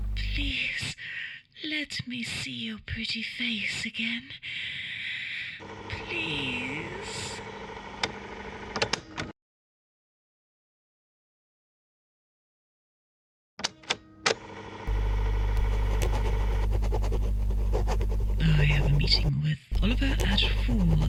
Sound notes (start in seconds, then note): 7.8 tape recorder stops; 14.4 tape recorder starts